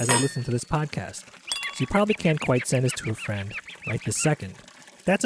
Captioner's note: dishwashing sounds